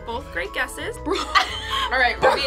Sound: laughing

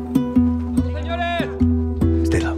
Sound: man shouts

